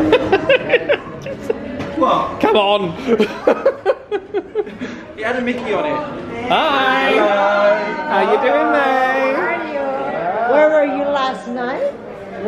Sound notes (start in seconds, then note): 0.1 laughs; 3.0 laughs